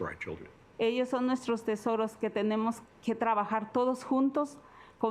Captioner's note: speaking Spanish